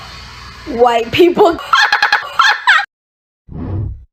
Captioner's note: horrific glitched laughter